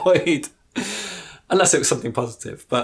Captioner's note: laughs